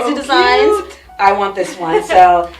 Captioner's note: laughs